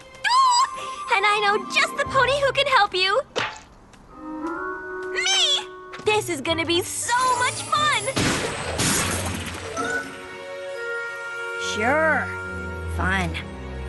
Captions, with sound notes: Oooh! And I know just the pony who can help you! (slap) Me! This is going to so much fun! (pow!) (pow!) Sure. Fun.